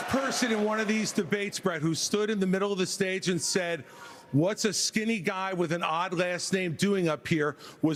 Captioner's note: applause